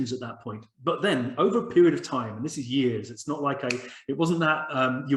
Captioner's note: a finger snap